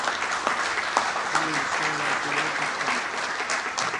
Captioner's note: applause